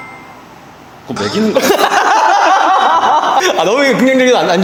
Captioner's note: laughter